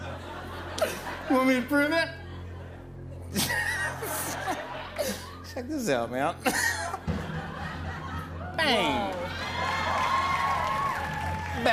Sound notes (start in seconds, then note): 3.2 laughs